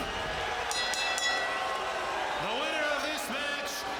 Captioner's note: bell ringing